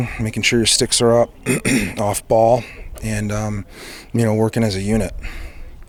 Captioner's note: clears throat